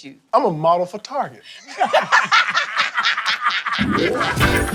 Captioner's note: both laugh; upbeat music